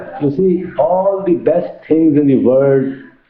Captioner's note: more laughing